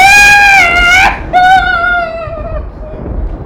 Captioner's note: lightning strikes!